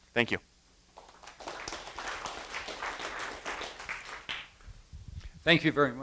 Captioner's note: applause